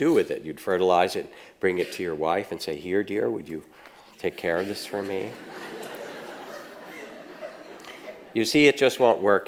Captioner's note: audience laughs